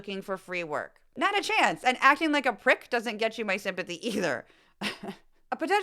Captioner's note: laugh